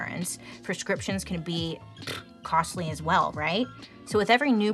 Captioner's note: puffs